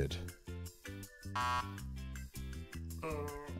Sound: buzzer

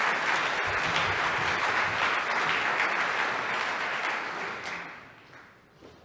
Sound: applause

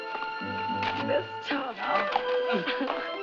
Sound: gushes excitedly

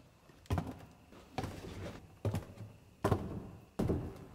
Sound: heavy footsteps

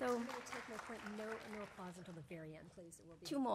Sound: applause

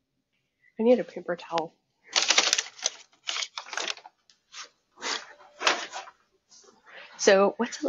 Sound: paper bag rustling

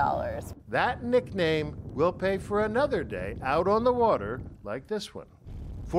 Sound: voice-over

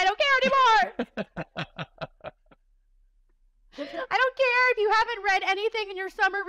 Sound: laughter

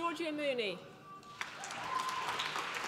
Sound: applause

